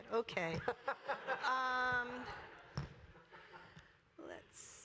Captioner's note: laughter